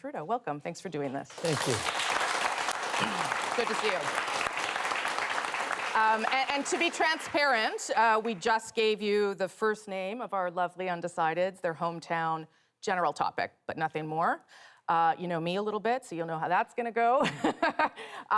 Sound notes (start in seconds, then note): 6.5 applause